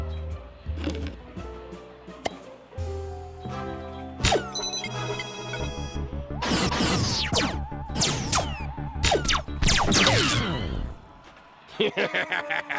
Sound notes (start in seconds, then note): 6.3 electronic blasting; 11.6 laughs maniacally